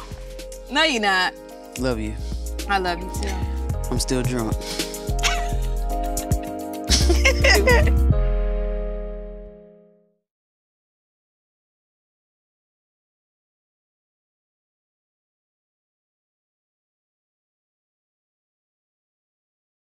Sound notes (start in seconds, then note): 4.9 R&B music plays; 4.9 laughing